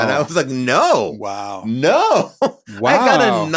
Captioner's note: laughs